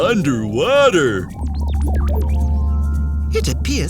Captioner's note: low frequency noise